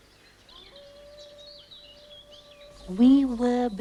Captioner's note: canine howling